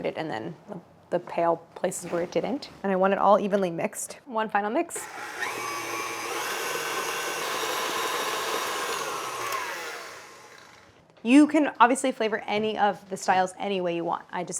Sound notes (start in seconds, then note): 5.0 machine whirring